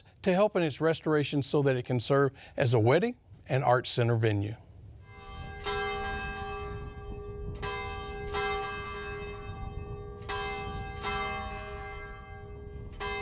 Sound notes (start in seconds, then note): 5.1 church bells ringing